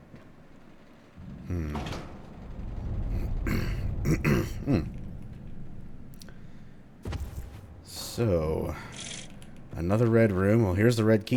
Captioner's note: clears throat